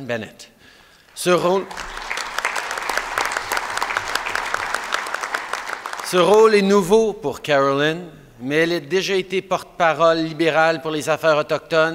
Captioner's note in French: Applaudissements